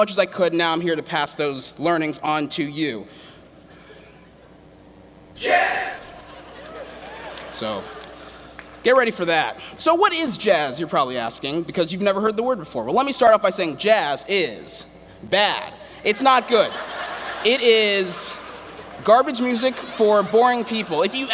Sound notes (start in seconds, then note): 16.3 laughter